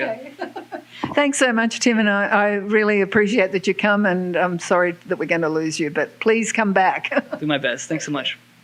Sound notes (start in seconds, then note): 0.2 chuckles